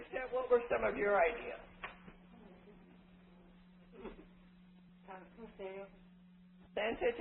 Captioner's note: silence